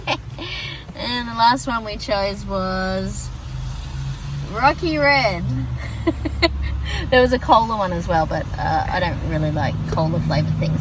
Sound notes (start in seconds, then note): 0.0 giggles; 5.5 laughs more